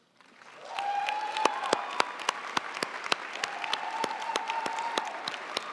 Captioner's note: audience cheering and applauding